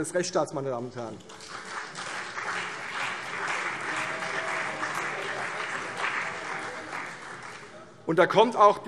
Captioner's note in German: Beifall CDU und BÜNDNIS 90/DIE GRÜNEN